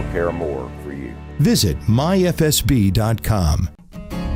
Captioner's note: voiceover